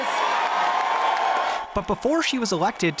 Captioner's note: cheers and applause